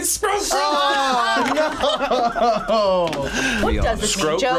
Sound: laughs

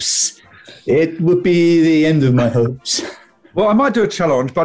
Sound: chuckling

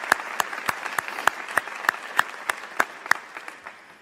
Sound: applause

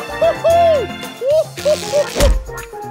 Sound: thunk

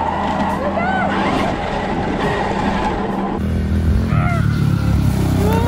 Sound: engine revs

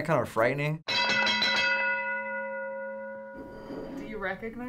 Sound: bell rings

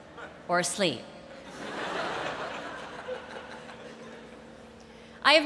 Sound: laughter

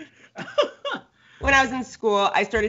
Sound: Brennan laughs

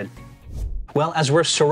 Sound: air swooshing

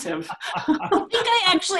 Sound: all laughing

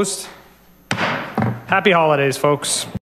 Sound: gravel bangs

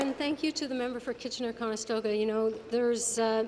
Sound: applause

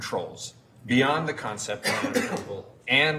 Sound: voice drowns out by coughing

